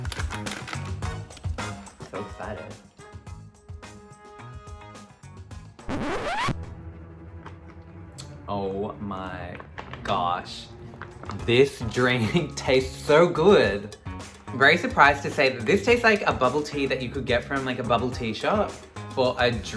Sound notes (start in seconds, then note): 0.3 upbeat music; 3.5 upbeat music; 5.8 record scratching